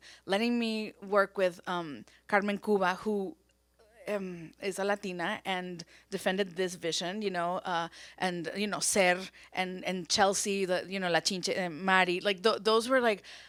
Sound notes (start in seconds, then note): 10.1 speaks Spanish